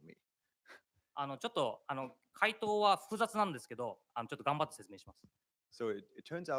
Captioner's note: speaking japanese